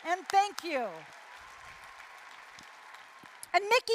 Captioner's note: applause, cheering